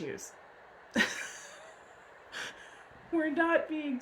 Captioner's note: laughs